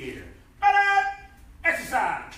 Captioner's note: enthusiastic shouting